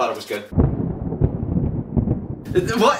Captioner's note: thunder